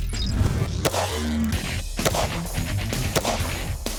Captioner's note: gun fires; rock music